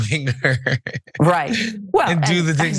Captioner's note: laugh